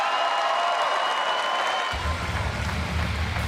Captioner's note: cheers & applause